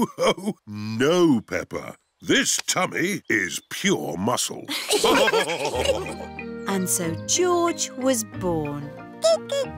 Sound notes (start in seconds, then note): 0.0 laughs; 4.7 all laughing